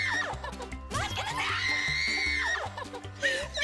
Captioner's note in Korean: 멘트 대신 괴성으로 가득 찬 오디오